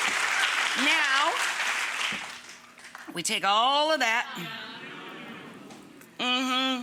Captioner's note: audience cheers and applauds; audience gasps